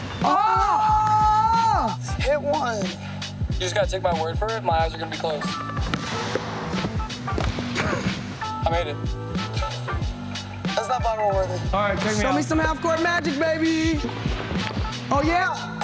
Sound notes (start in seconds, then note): 9.3 laughs